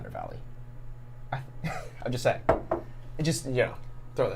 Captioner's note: laughs